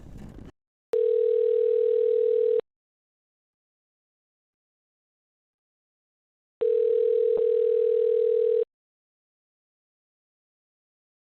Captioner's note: phone Ringing